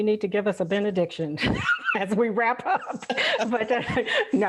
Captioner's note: laugh